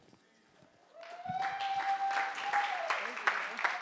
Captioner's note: audience applauding